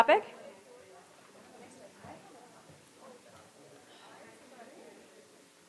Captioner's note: audience chattering softly